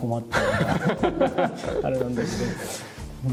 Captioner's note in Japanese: 笑い